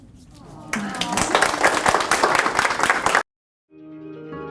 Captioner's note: applause